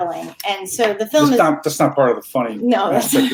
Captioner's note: murmuring; chuckling